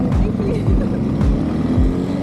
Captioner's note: laughing